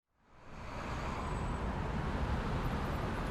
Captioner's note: city sounds